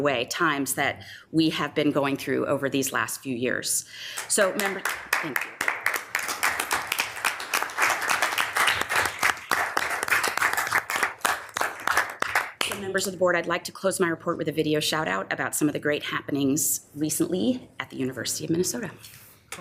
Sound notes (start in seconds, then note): 4.5 members applauding; 6.5 members applauding